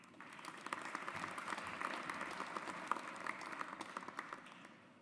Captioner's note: audience applauds